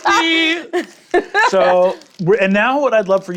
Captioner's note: laughs